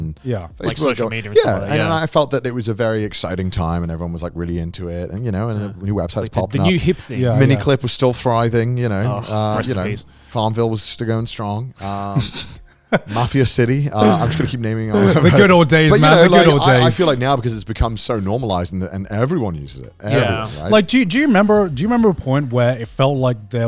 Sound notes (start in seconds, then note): 12.9 laughing